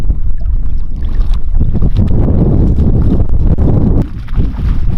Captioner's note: Cali splashing